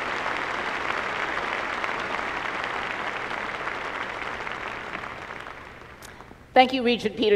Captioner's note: applause